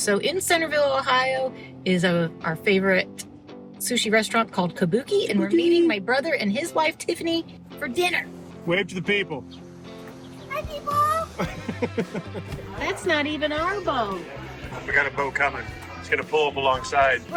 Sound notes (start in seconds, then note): 11.3 laughs